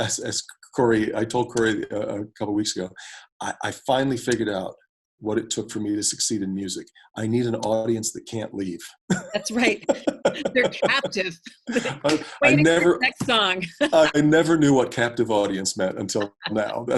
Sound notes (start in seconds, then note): 9.0 both laugh; 9.0 laughs; 11.7 both laugh